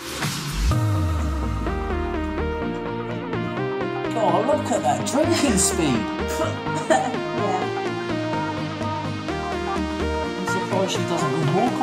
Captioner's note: music starts playing in the background again; laughing and starts to cough a little; laughing